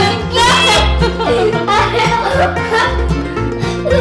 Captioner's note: laughing